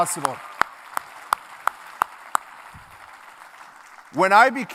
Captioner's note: clapping